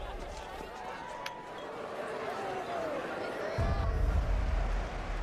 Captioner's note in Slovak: Potlesk